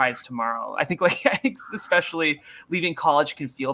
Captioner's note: laughter